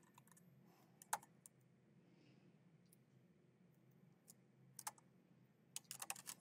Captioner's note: keyboard clacking continues